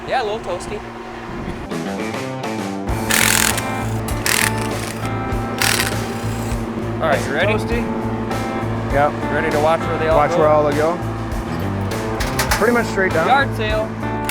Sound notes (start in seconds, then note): 2.9 drill whirring; 3.0 upbeat music